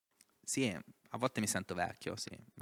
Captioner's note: laughing